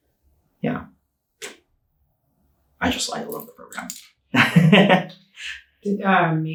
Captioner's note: laughing